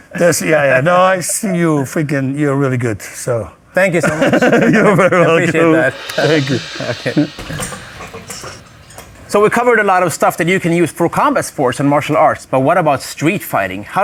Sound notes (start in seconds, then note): 4.1 laughs; 7.6 ropes rattling